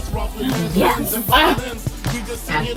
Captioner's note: gasps